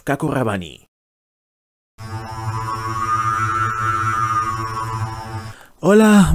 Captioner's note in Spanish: Sonido de vórtice